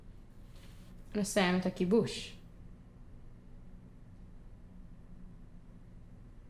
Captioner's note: speaking foreign language